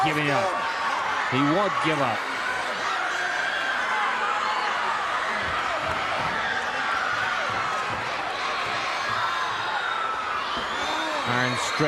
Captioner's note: crowd cheering